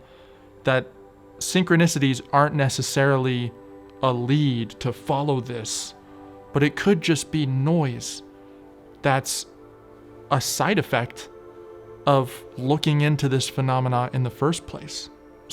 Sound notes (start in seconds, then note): none